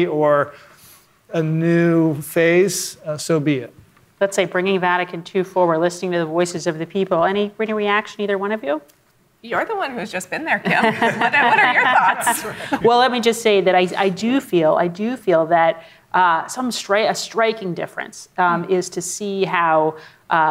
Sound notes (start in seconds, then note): 10.6 laughing